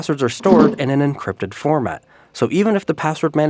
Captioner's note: chest thunks